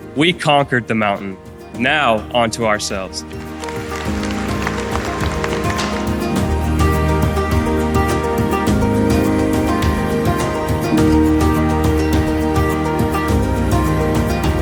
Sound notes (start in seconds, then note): 3.1 audience applauding; 3.7 bright music